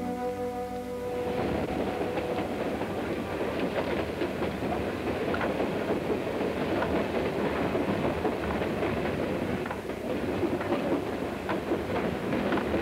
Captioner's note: train rumbling on tracks